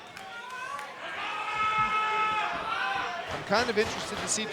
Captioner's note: crowd cheering